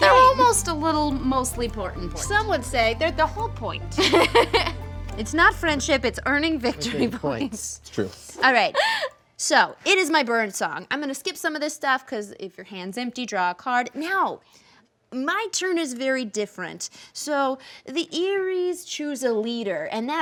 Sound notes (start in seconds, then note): 4.0 laughing